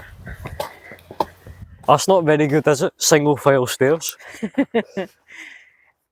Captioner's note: laughter